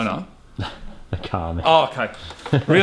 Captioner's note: scoffs